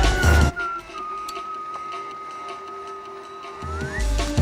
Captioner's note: whistling